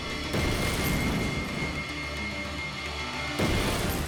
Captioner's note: car banging